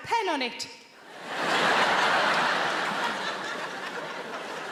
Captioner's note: audience laughing